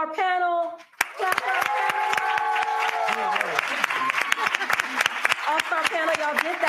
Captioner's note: applause